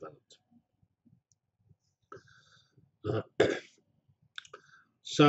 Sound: pause

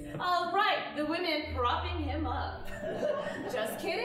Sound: audience chuckling

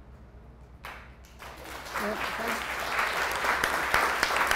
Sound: applause

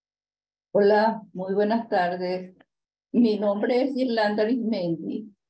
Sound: speaking in Spanish

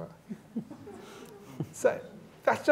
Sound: laughter

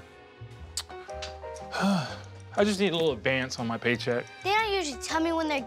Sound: sighs

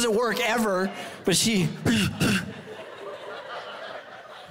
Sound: grunts

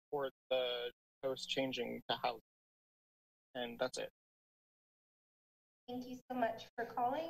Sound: speaks faintly

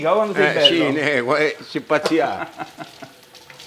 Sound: Father speaks in the Abruzzo dialect

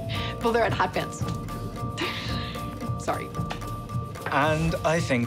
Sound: laughs

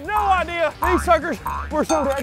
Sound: boing, boing, boing

